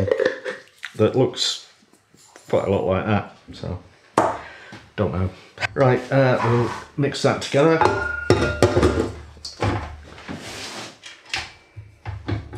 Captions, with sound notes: that looks quite a lot like that so I don't know. Right, we'll mix that together [ CLANG CRUNCH ]